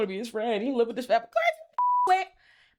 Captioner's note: beep